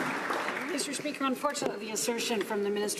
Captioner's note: some Applause